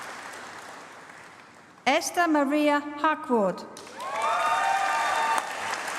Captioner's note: applause